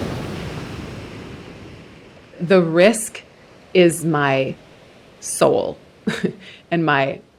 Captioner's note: waves surging